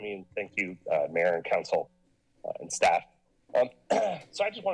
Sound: clears throat

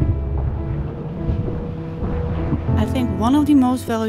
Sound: boat engine roaring

